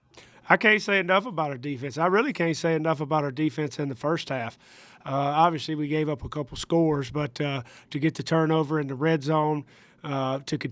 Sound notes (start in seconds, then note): none